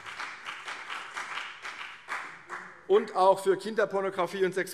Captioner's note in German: Beifall CDU und BÜNDNIS 90/DIE GRÜNEN